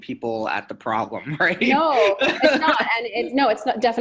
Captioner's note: laughing